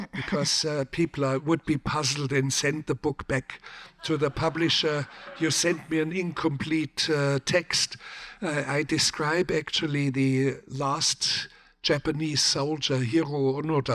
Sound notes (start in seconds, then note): 3.8 audience laughs